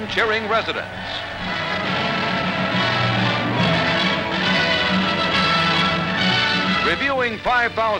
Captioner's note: cheering and music